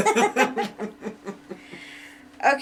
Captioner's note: chuckling